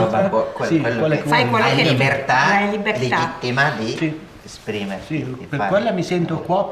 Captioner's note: chatter